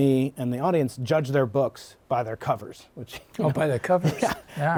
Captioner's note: laughter